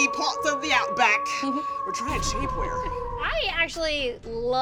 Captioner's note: laughs